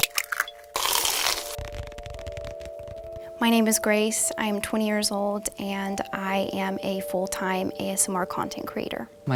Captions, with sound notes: (eggs cracking) (crunching) (fingers tapping) - My name is Grace. I'm 20 years old and I am a full-time ASMR content creator.